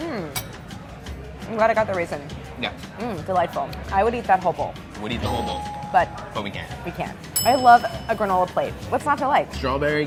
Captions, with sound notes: Mm. I'm glad I got the raisin. Mm, delightful. I would eat that whole bowl. - Would eat the whole bowl. [bell dinging] - But. - But we can't. - We can't. [bell dinging] I love a granola plate. What's not to like?